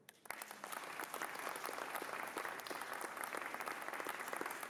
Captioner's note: applause